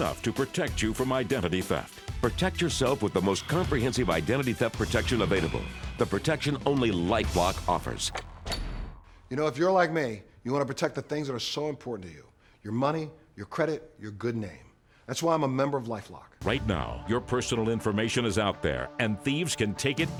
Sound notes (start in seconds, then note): 8.1 click